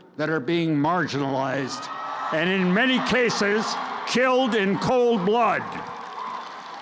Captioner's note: crowd cheers